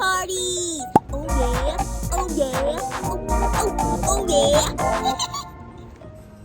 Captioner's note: laughs